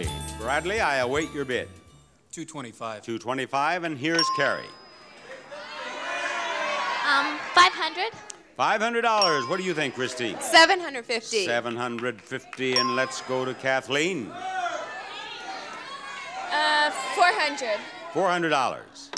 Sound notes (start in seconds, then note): 5.1 audience shouting; 13.2 audience shouting